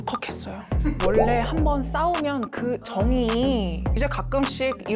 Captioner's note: turning misfortune into fortune sound effect